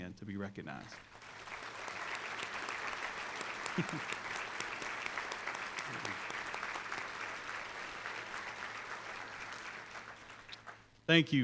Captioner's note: applause